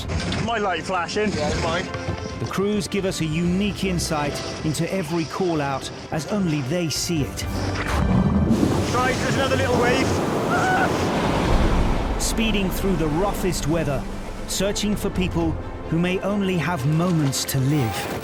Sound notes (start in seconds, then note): 0.2 object thudding; 7.6 water splashing; 10.4 person shrieks; 11.5 water splashing